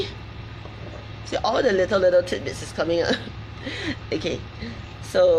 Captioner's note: laughs